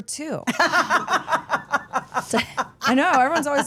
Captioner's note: Steph laughs